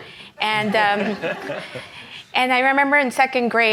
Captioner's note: laughs